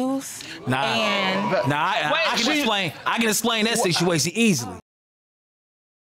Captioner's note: audience exclaims